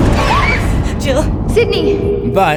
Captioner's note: screams